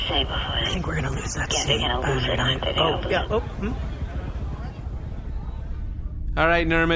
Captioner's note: whispering